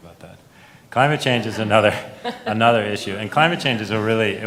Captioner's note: laughs